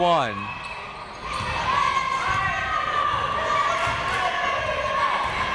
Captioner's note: crowd members shouting